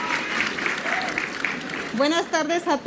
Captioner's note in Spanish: aplausos